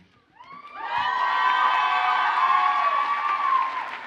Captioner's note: audience cheers and applauds